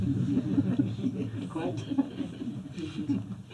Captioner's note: laughter